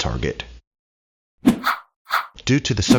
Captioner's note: air whooshing